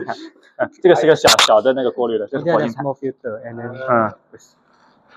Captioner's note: laughs